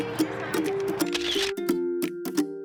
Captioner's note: upbeat music; camera shutter snapping picture; upbeat music